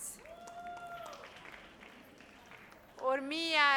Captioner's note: audience cheers